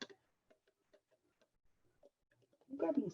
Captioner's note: scrapes